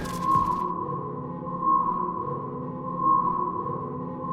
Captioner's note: alarms blaring